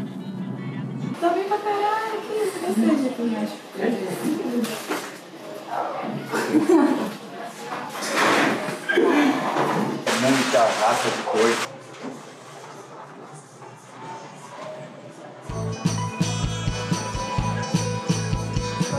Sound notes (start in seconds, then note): 6.2 laughs; 10.8 speaks foreign language; 15.4 mid tempo music